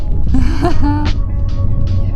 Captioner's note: laughs